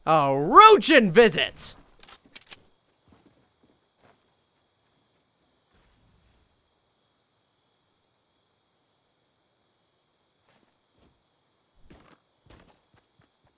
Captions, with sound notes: A Roached visit! (gun click)